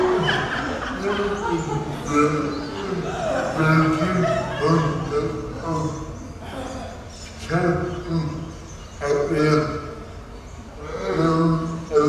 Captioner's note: audience giggling louder